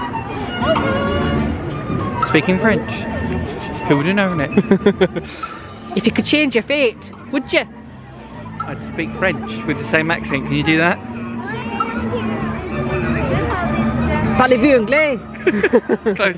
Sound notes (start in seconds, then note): 6.0 Scottish accent; 14.4 speaking French